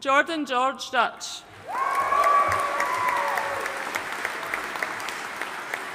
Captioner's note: audience cheering and applauding